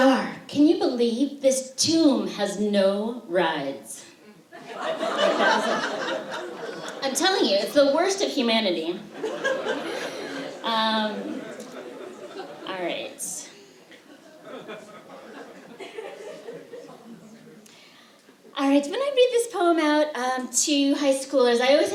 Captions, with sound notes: "One star. Can you believe this tomb has no rides?" [laughter] I'm telling you, it's the worst of humanity. All right. When I read this poem out to high schoolers,